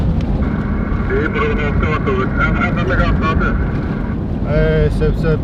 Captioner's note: radio